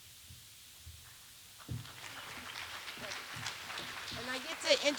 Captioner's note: applause